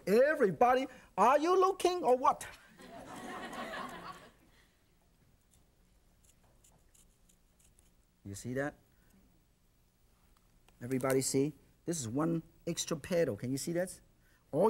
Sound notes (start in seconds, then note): 2.8 audience laughs